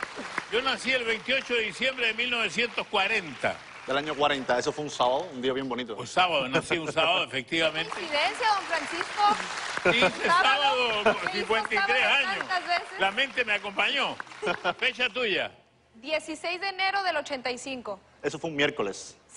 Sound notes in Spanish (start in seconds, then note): 6.8 Ríe; 8.3 Aplausos